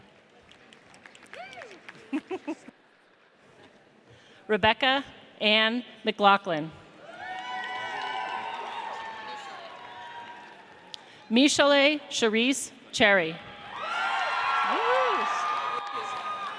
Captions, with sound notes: (audience applauds) Rebecca Anne McLaughlin. (audience cheers) Meshalay Cherese Cherry. (audience cheers)